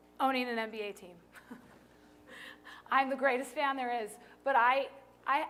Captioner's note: laughter